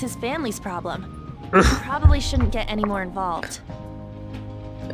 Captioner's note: clears throat